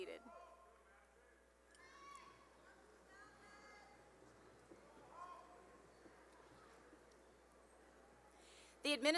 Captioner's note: cheering